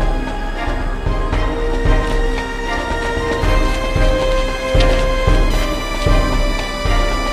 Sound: still more chewing

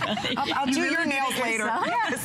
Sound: laughter

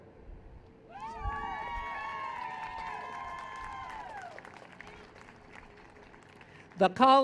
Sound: cheers

